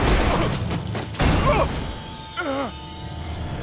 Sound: grunting

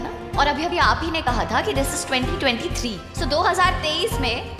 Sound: none

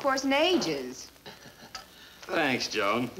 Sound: Brad laughs

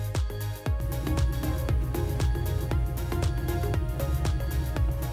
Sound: truck running

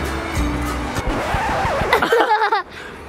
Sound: record player scratching; laughing; dad laughing

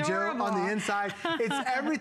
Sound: laughter

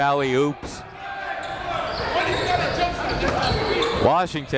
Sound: chatter

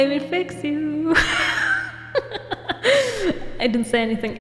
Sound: laugh

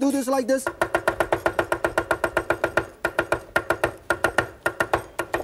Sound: knife chopping sounds

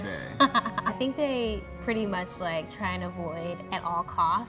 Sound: laughs

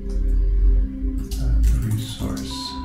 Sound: typing input

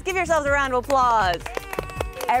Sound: kids clapping

